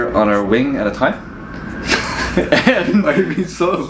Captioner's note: laughing